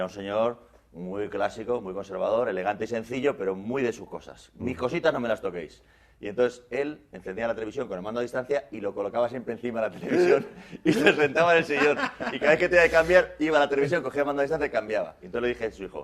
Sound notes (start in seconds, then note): 11.7 laughter